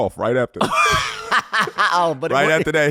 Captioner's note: laughing